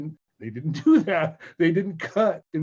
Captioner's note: laughing